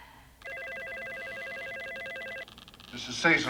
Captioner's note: phone ringing